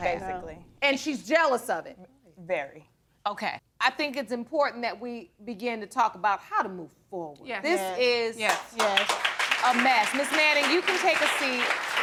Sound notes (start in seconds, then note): 8.4 audience applauding